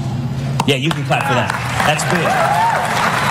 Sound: applause

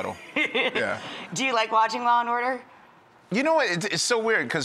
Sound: laughs

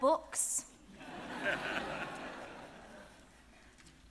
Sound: audience laughing

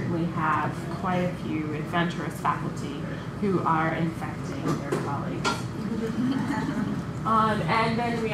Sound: laughter

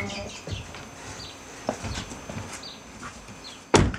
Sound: birdsong

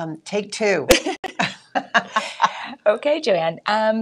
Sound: chuckling

